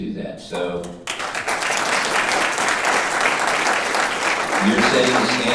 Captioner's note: audience applauding